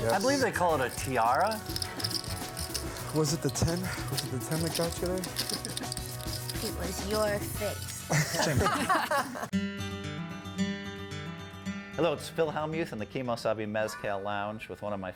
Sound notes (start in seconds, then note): 8.0 laughs uproariously; 9.5 guitar music